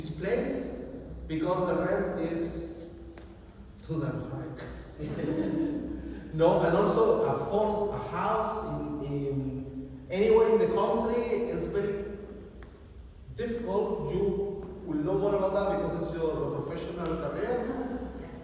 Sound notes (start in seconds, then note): 5.0 laughter